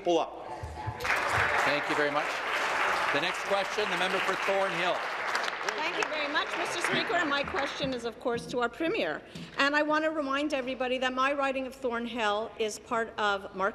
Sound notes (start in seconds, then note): 4.1 applause